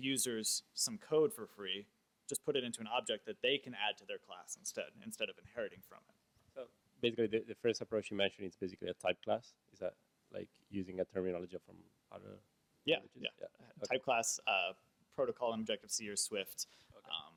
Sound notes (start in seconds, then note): 6.8 voiceover